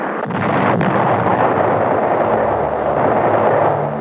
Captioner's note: airplane exploding